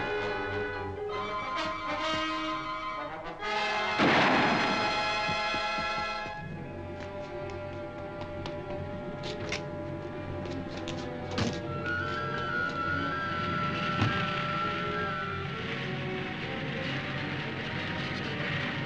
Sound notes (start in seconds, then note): 3.9 gun firing; 6.1 dramatic music